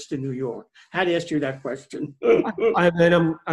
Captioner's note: chuckling